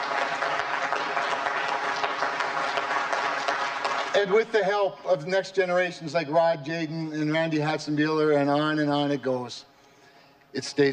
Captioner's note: applause